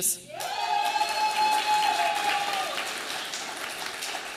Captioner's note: audience applauding